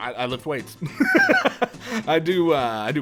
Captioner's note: laughter